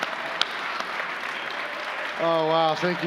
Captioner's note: cheers and applause